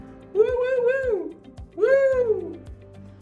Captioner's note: whooping